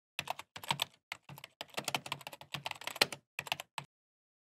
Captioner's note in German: Tastatur-Getippe